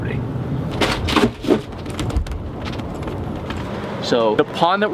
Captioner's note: wheels creaking